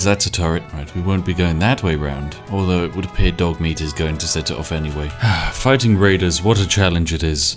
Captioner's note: sigh